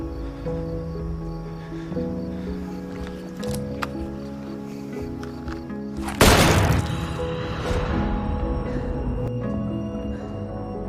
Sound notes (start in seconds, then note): 6.2 gunshot